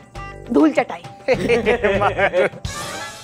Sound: laughs

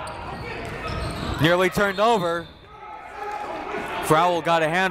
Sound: whistle

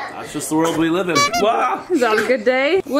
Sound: child laughing; horn beeping; person shouting

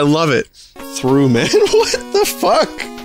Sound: laughs

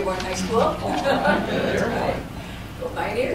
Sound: laughter

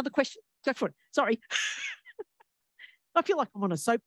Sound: laughs

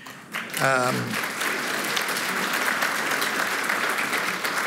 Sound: applause

